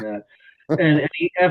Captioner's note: laughs